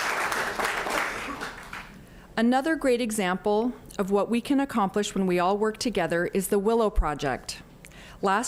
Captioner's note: applause